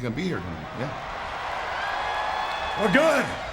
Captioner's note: audience cheering